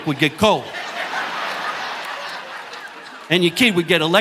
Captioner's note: audience laughing